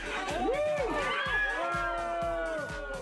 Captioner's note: all groaning